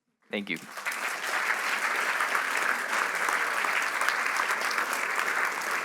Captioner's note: applause